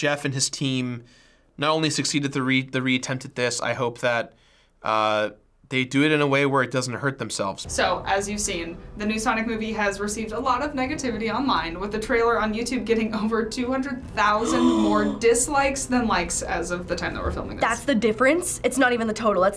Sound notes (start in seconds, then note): 14.4 gasps